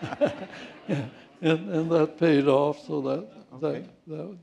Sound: laughter

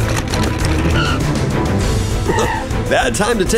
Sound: car screeching

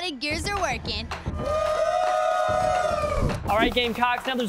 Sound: crowd cheering

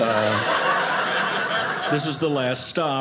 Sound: audience laughing

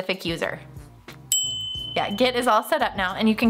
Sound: ding

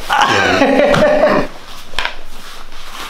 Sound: laughs

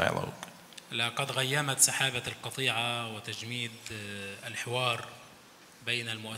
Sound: speaks in foreign language

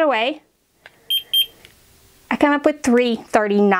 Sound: thermometer beeping

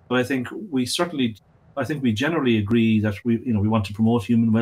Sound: none

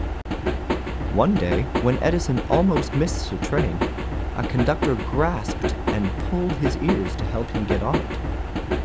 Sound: train

